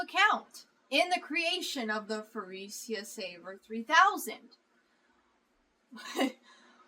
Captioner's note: laughs